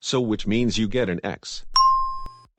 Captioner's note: ding